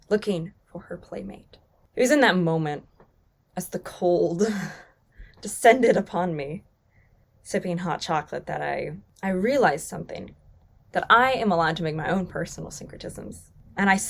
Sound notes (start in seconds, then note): 4.7 chuckles